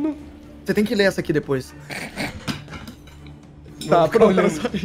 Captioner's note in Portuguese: risadas